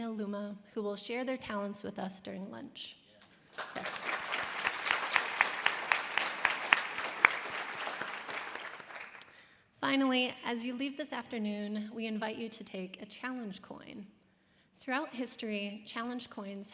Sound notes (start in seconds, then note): 3.3 applauding; 3.5 audience applause